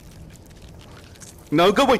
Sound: hissing

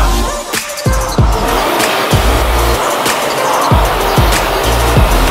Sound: equipment whirring

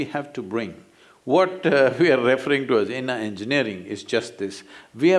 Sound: laughs

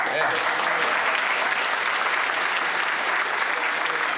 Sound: applause

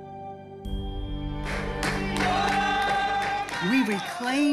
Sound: audience applauds and sings

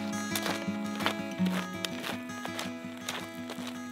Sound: gravel crunching

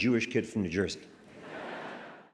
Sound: crowd laughing

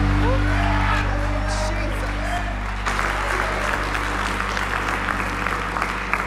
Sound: congregation cheering and applauding

